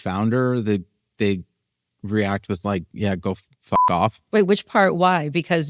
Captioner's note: beep